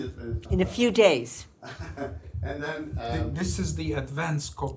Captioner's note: laughs